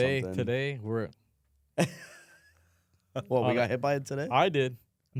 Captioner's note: laughs